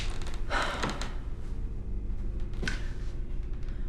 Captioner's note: Scott sighs